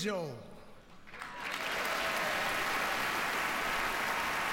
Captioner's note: applause